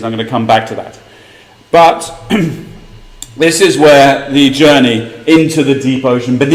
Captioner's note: cough